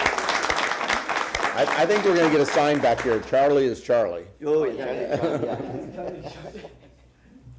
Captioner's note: applause